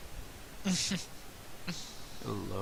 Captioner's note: chuckling